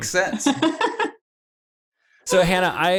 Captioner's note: laughs